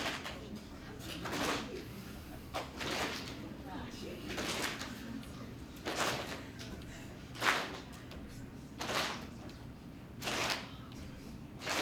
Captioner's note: clapping noises